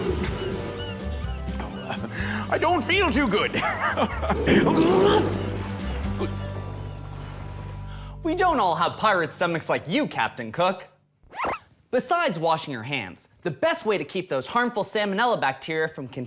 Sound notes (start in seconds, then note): 0.0 stomach growling; 4.3 laughs; 4.4 stomach growling